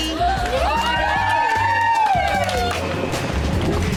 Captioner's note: cheering